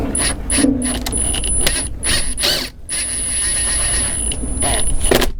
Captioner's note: drill whirring